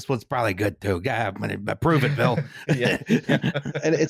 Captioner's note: laughter